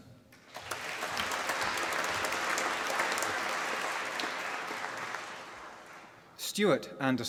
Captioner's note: applause